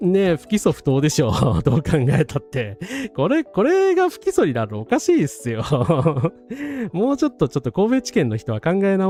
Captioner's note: laughs